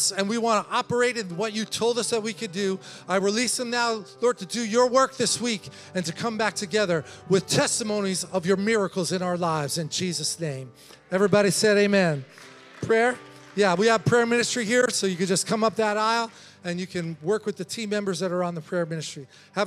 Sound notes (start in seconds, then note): 11.0 congregation applauding